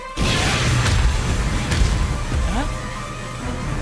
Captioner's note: footsteps pounding